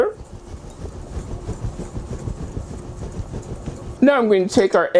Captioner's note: whisking sound